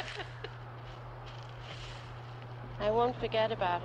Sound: wind whistles

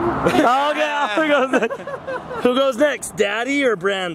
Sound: cheering

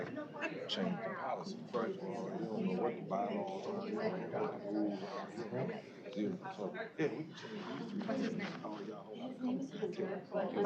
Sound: off-mic chatter

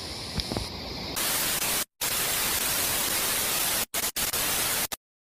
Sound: TV static

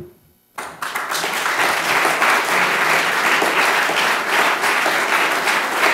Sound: applause

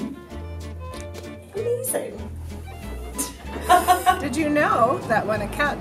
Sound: laughs

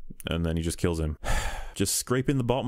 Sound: sigh

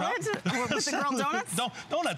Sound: laughter

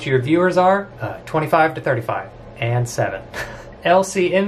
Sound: laughs

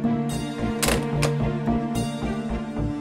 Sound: door closing

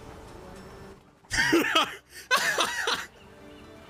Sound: laughter

